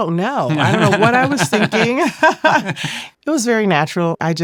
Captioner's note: laughs